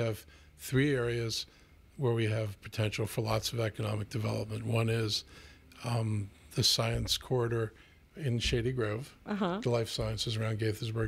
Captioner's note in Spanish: Hablando ingl\s